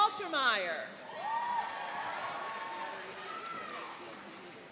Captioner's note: cheering and applauding